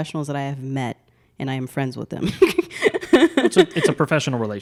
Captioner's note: laughs